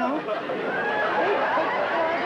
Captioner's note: laughter